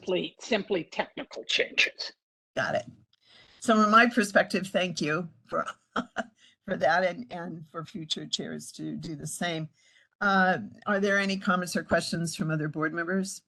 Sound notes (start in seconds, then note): 5.9 laugh